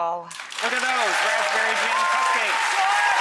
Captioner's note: applause